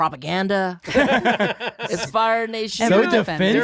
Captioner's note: they laugh